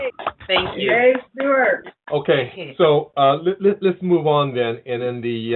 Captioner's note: applause